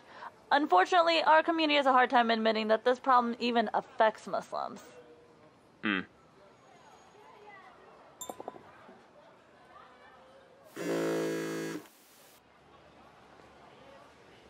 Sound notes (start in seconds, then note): 10.8 phone vibrates